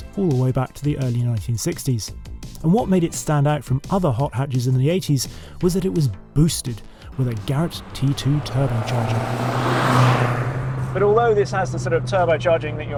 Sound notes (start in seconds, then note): 9.2 car roaring